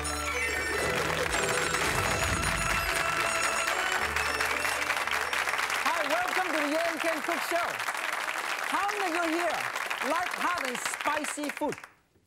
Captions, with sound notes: - [Crowd] (applause) - Hi, welcome to the Yan Can Cook show! How many here like having spicy food?